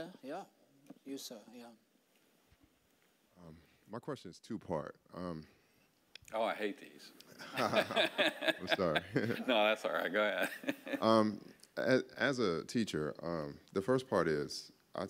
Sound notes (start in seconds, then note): 7.4 laughing